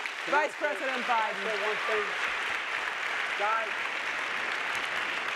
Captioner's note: audience applauding